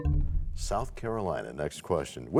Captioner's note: bell chimes, time expires